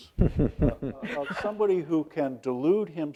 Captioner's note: others laugh